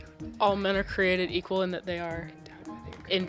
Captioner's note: teammates whispering